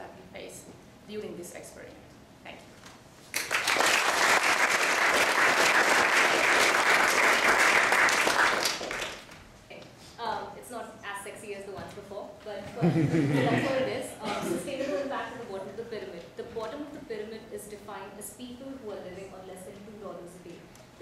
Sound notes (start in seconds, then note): 3.3 applause